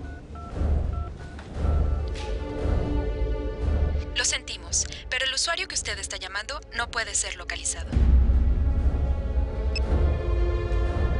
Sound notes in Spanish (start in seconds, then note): 1.6 Sonido al marcar